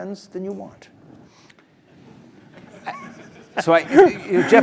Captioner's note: laugh